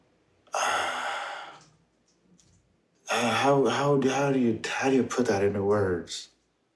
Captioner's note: sighs